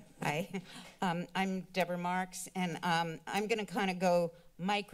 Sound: chuckle

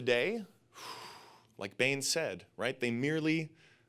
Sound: exhales

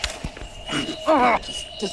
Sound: grunt

